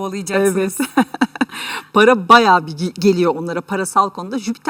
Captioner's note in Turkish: kahkaha